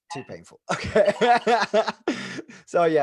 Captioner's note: laughs loudly